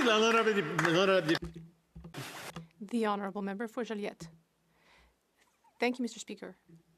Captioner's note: applause